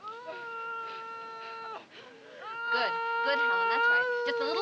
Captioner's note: Helen groaning